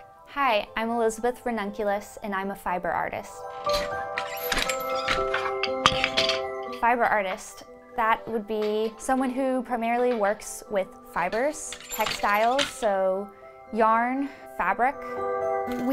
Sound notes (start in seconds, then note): 4.1 loom squeaks; 5.9 shuttle rattles; 11.7 loom squeaks